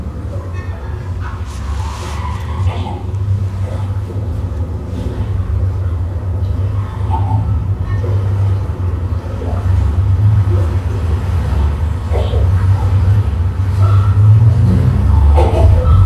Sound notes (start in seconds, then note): 3.4 rumbling noises increase